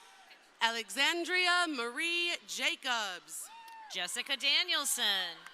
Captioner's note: crowd cheering